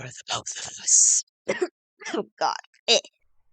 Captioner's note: coughs x2